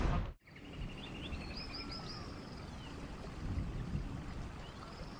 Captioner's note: birds chirping